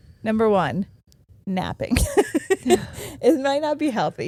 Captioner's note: giggling